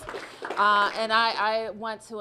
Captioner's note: applause